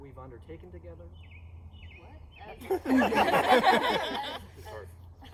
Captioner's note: laughter